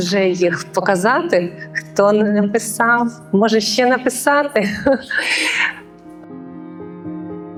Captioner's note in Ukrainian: сміх